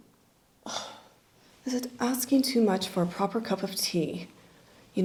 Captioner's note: sighs